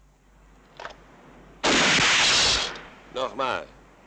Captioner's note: gun fires